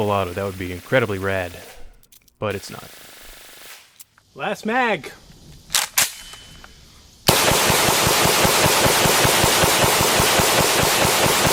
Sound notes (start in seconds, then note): 5.7 cocks gun; 7.2 fires rapid shots